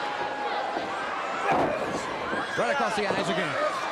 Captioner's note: crowd cheering